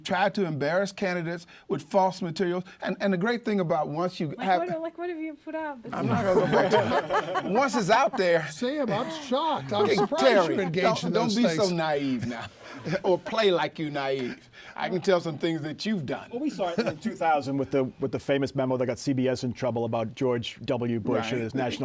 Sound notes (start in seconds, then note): 6.0 laughter